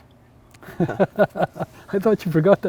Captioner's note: laughs